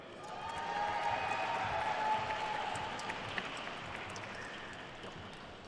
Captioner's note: attendees cheering and applauding